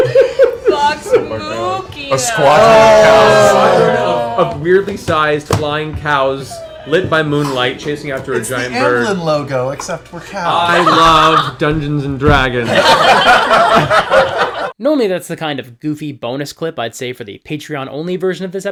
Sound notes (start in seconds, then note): 2.2 booing; 12.6 laughter